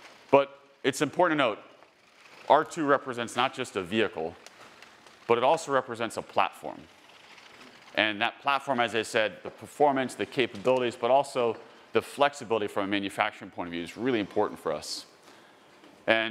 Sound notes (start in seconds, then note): none